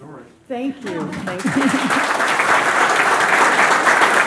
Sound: audience clapping

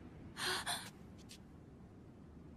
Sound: gasps

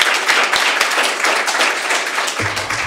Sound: applause

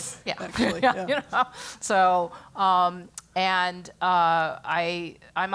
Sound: laugh

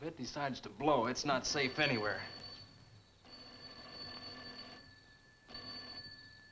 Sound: phone ringing

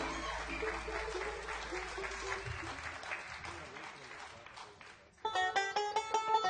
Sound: audience applauding

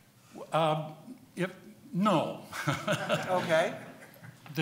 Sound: laughing

